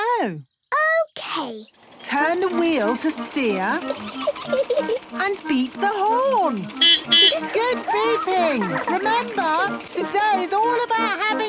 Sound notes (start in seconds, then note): 3.4 giggling; 6.1 beeping